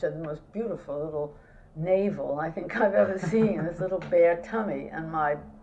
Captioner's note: laughter